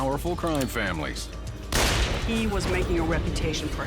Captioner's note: gun shot